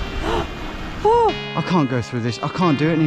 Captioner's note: waves crushing; gasping